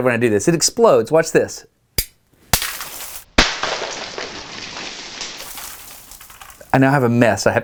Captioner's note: POP!! ..... Crackles around room